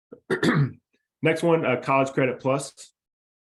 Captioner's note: coughs